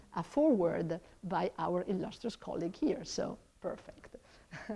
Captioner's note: laughs